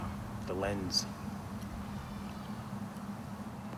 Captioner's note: chews gum